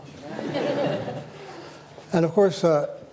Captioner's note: laughter